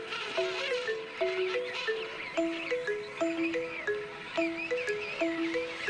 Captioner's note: penguins vocalizing